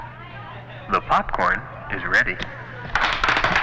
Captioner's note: man On PA; popcorn popping